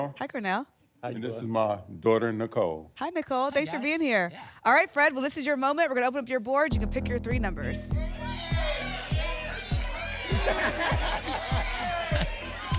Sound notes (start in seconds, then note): 7.9 audience shouting numbers; 10.4 laughs